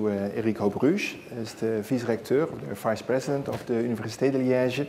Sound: speaking dutch

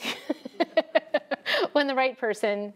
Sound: laughs

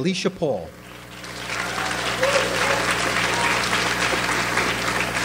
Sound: audience applauds

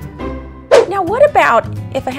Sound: swooshing

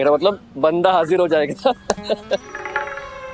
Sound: laughing

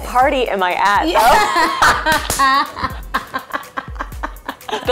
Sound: laughing

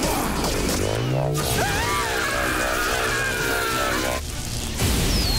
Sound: screaming

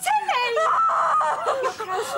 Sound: groans

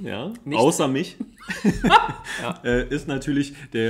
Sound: laughs

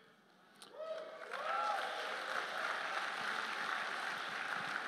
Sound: applause

